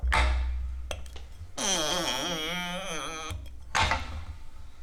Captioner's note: sound of creaking cork